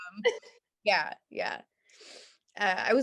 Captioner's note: laughs